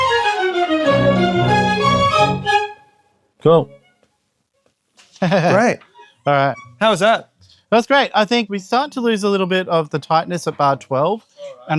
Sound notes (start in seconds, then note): 5.0 chuckles